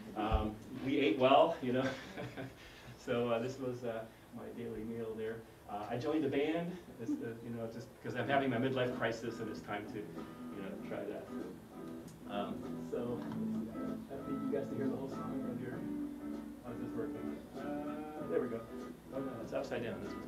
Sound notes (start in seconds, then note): 2.0 laugh